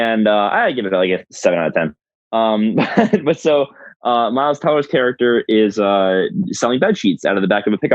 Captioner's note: laughs